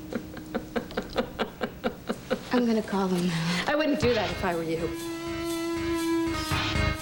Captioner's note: cassie laughs